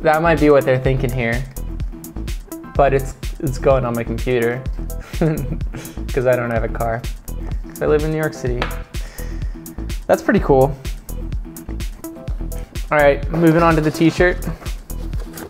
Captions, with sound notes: That might be what they're thinking here. But it's going on my computer. (chuckles) 'Cause I don't have a car. 'Cause I live in New York City. That's pretty cool. Alright, moving on to the t-shirt.